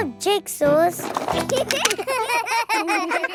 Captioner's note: laughter